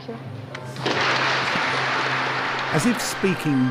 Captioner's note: applause